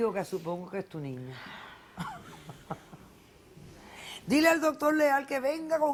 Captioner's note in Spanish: Ríe